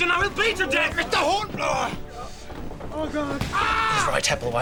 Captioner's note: williams screams in agony